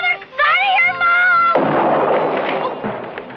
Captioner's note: gunshot